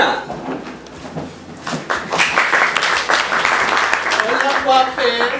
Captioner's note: applause